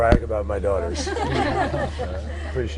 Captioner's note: laughter